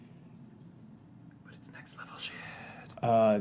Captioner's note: whispering